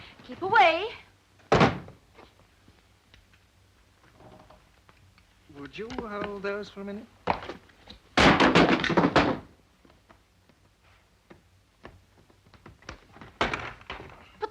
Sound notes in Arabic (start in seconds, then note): 8.2 صندوق يطرق على الأرض; 12.7 صوت الحقيبة